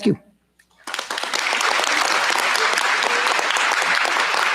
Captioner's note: applause